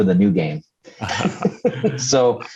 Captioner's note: laughs